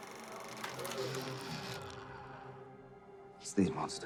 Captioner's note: projector whirring